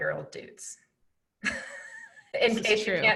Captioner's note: laughing